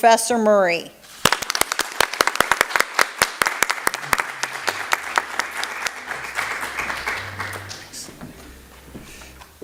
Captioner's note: applause